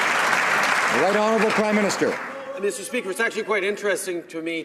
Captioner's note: some Applause